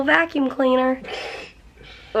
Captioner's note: snorts